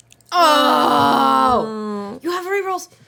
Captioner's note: groaning